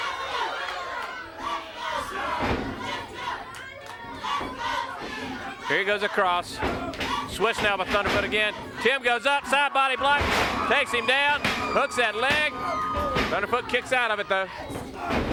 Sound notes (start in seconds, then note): 1.8 blows thudding; 6.3 footsteps plodding; 10.1 body thudding; 11.3 hands thudding; 11.5 crowd cheering